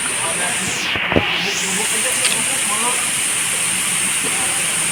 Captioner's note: sound of water